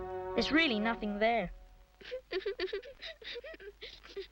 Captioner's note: weeping